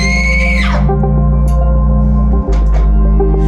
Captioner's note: speaking Korean; screams; intense music